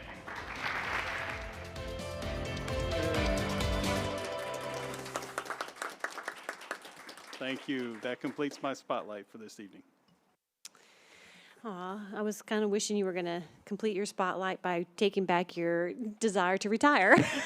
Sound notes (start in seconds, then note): 0.0 applause; 5.5 applause; 17.0 laughter